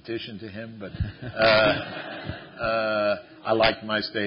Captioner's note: laughter